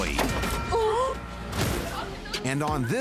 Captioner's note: person gasps